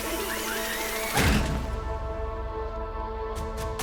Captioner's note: mini automatic vehicle moving, laughing; slams wall; suspenseful beat